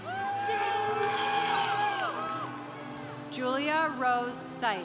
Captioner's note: congregation cheering